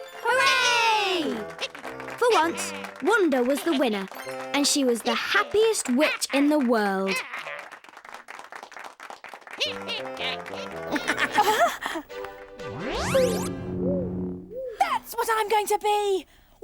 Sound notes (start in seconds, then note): 6.8 audience clapping; 11.0 Iver laughs; 12.5 warping sound